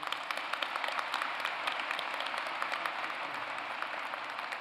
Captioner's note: applause